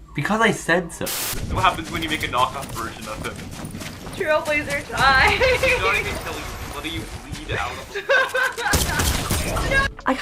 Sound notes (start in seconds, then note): 1.0 static; 7.5 laughs